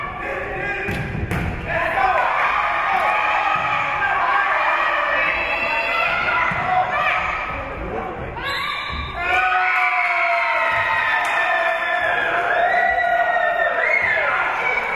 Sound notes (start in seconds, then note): 8.4 whistle being blown; 9.7 spectators cheering and applauding